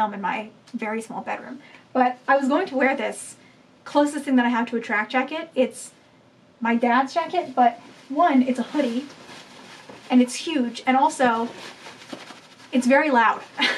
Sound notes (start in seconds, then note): 11.1 crinkling noises; 13.6 laughing